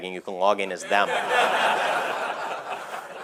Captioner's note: laughter